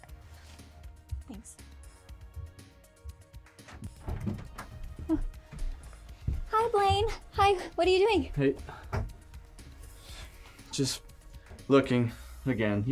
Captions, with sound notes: - Thanks. (soft upbeat music) (door rattles) - Huh. Hi, Blaine, hi. What are you doing? - Hey. Just looking again.